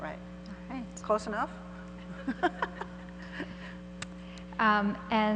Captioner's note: laughs